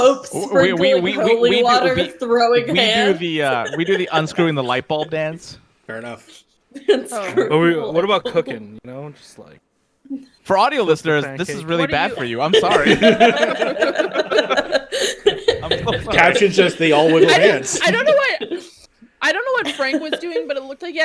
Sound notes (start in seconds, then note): 13.3 laughter